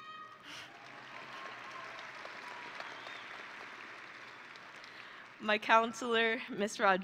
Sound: audience and graduates applauding

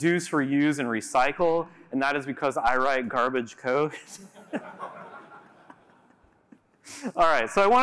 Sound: laughter

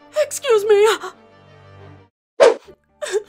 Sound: Jackson crying

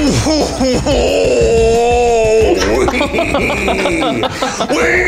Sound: laughs hilariously

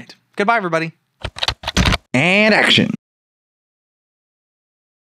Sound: typing

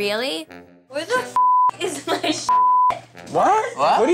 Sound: beep

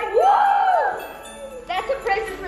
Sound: kids cheering

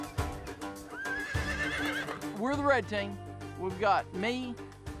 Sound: cows mooing; horses whinnying

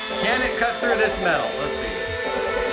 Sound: Dremel vibrating; metal cutting; upbeat music; metal cutting; upbeat music

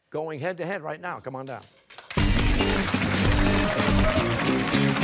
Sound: cheers and applause

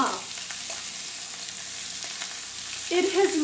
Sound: sizzling

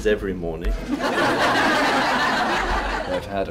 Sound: laughter

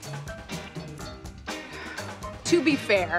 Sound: sighs

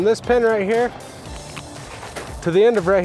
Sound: feet shuffling

